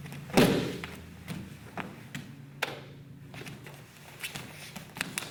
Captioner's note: loud thumping